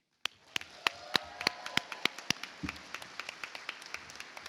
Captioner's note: audience applauds